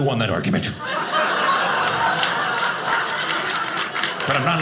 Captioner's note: audience laughing